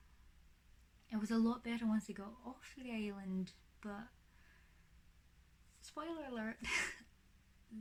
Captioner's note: laughs